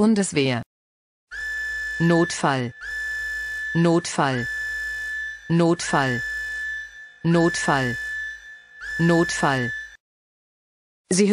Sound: siren

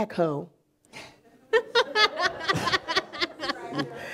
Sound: laughing; audience laughing

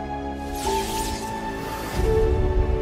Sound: electricity crackles

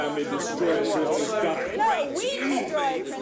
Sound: people chattering

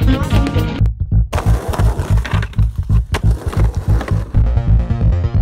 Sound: skateboard rattles; upbeat music continues

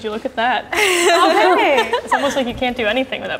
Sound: group laughing

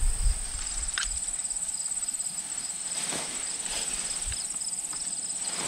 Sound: crickets chirping, wind blowing

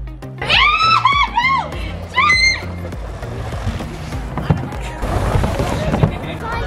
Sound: screams; chuckles

